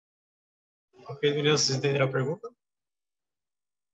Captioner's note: speaking portuguese